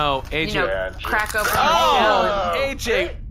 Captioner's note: disgusting groans from all three